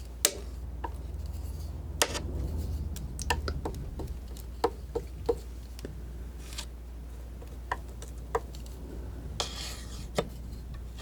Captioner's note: scratching